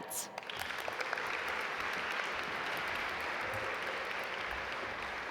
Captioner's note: audience applaud